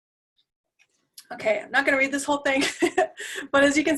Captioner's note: laugh